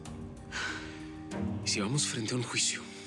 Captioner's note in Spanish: ella exhala